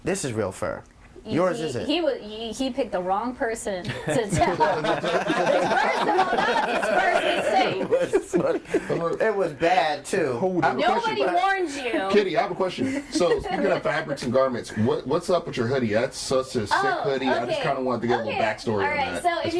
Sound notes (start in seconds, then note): 5.5 all laughing